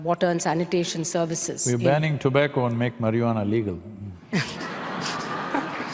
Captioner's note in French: rire / applaudissements